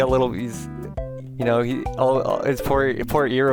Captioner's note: stammering